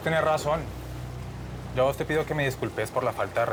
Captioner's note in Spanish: none